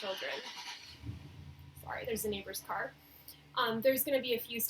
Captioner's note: car noises in background